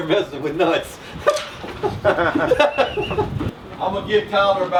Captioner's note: laughter